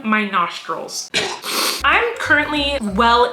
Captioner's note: sniffing